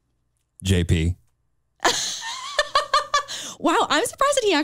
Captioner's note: chuckles